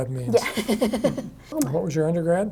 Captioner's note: laughs